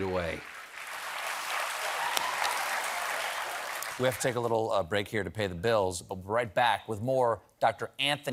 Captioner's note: applause